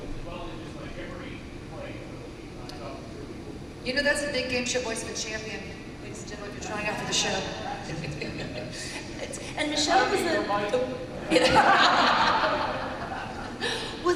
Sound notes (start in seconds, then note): 7.8 laughs; 11.2 laughter